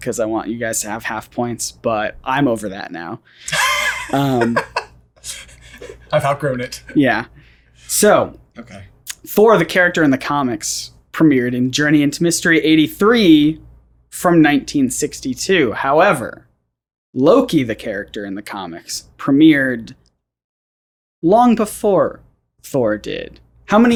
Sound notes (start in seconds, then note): 3.4 laughs